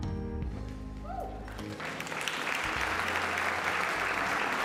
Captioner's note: applause